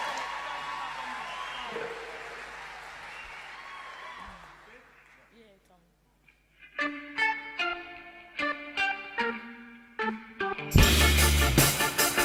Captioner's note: applause